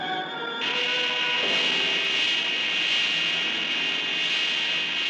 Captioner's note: beam blasting